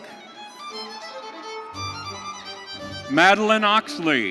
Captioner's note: audience cheering